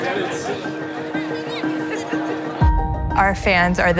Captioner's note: fans enthusiastically chatting